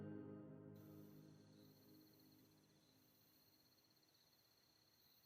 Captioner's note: insects chirping